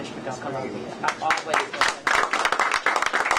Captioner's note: applause